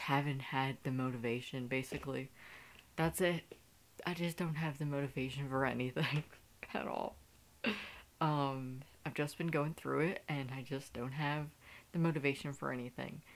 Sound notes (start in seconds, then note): 6.7 laughing